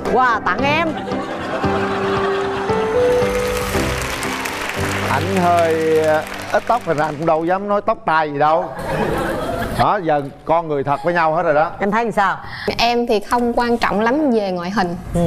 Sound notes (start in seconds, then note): 1.4 audience applause; 8.7 audience laugh